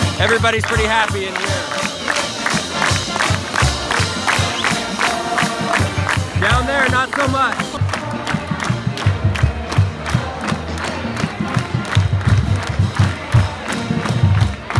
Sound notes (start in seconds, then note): 1.3 audience clapping; 8.0 audience clapping; 8.0 drum thumping